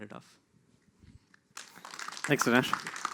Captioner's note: applause